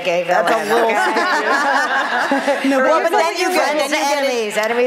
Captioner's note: laughter